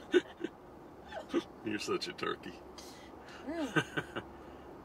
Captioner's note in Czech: Smích